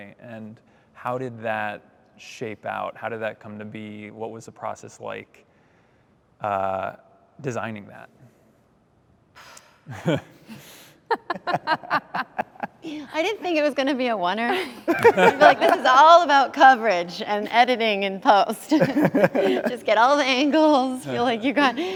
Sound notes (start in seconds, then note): 8.9 laughter; 8.9 sighs; 14.5 laughter; 18.7 laughter